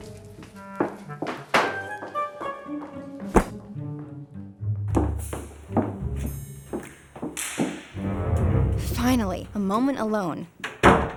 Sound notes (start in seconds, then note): 3.3 books thud; 8.2 dramatic music